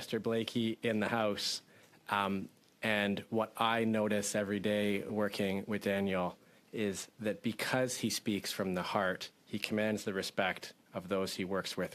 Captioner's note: speaking French